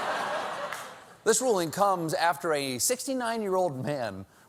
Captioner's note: laughter